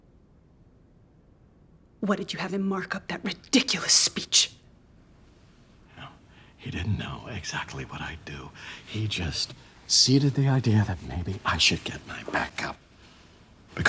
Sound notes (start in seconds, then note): none